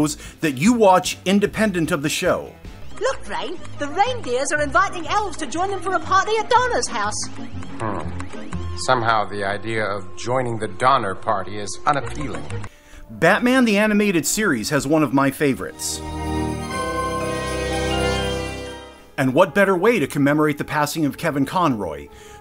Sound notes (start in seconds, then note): 2.9 keyboard clacking